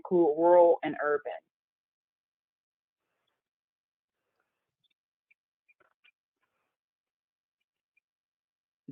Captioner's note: 8 seconds pause